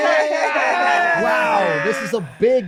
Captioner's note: all laughing loudly